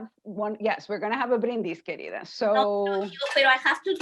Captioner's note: spanish